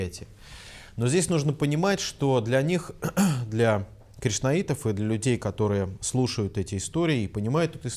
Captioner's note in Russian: откашлялся